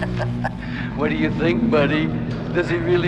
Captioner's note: laughing